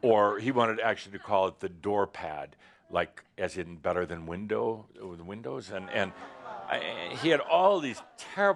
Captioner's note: audience groans